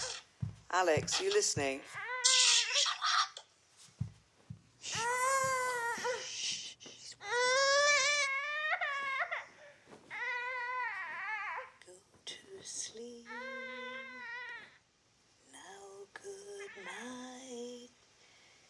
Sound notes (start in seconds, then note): 4.5 Alex shushing; 4.8 Jack crying